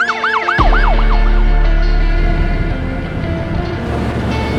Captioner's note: sirens